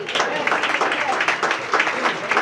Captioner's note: applause